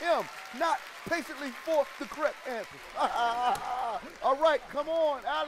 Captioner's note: laughs